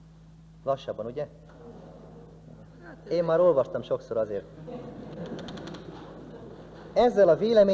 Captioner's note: laughter